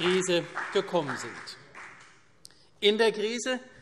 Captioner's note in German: Beifall CDU